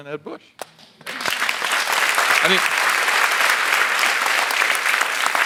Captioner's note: audience applauds